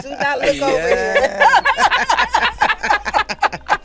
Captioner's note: laughing